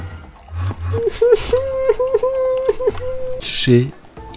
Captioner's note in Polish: cry